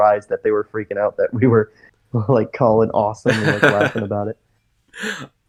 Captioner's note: laughs